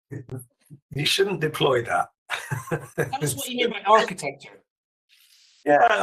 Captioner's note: laughs